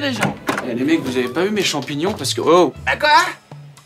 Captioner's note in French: Bruit de porte